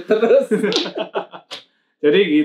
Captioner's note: laughs